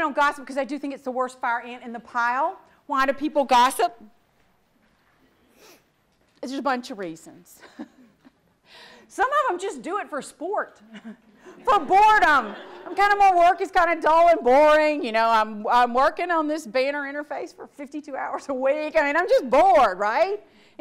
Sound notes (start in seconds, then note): 11.0 audience laughs